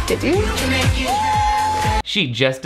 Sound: cheering

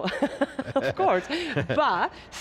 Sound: laughs

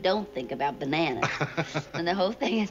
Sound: laughs

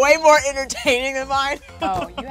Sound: laughs

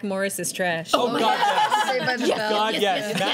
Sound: laughter

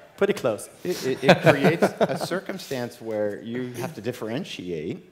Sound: laugh

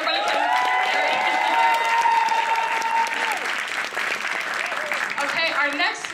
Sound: applause

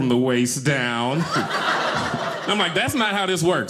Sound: audience laughing

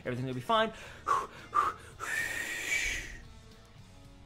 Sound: exhales loudly

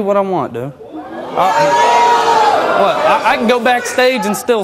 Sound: audience responds

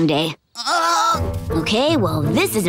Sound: groaning

